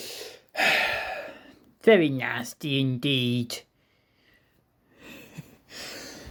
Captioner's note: sighs